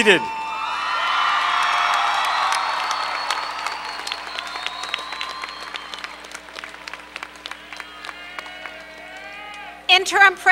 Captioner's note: cheering, applause